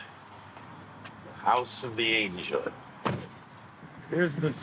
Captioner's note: car door shutting